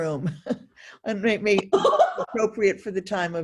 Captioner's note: laughing